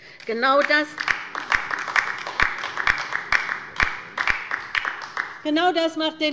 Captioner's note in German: Beifall bei der LINKEN